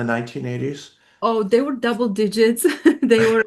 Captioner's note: laughs